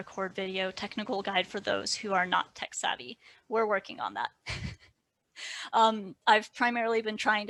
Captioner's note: light laughter